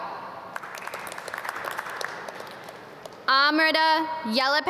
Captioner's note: audience clap